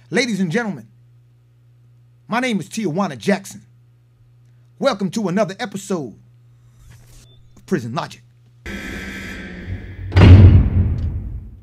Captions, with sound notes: Ladies and gentlemen, my name is Tijuana Jackson. Welcome to another episode of Prison Logic. (buzzer buzzing) (cell door clanking)